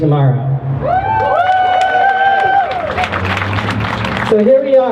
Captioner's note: crowd cheering and clapping